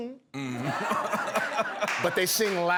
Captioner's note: laughter